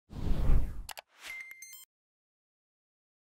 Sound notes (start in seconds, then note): 0.8 click